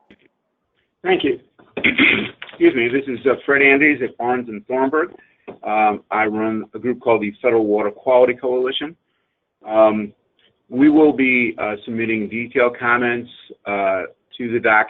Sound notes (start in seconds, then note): 1.8 sneezes